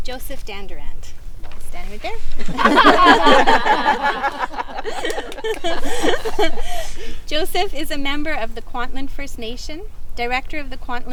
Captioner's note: group laughing